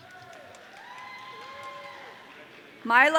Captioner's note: audience cheering